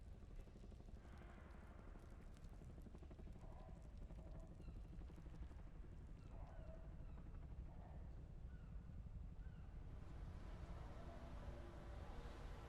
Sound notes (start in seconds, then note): none